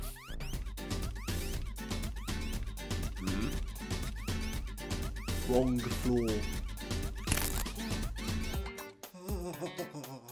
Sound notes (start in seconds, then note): 1.0 concerned Grunt